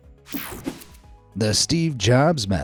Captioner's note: soft upbeat music; air whooshing